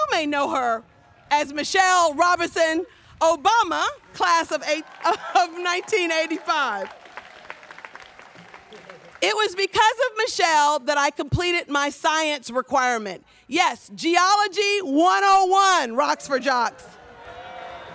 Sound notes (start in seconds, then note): 7.8 students clapping